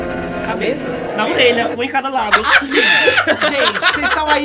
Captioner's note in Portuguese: risos